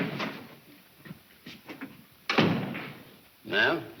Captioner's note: none